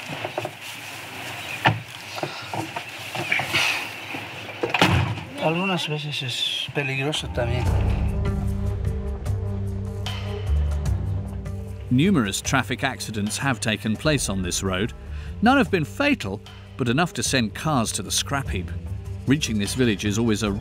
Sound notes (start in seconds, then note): 5.7 speaking in foreign language continues; 9.7 dramatic music